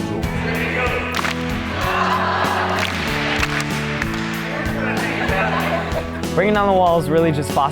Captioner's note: clapping and various people talking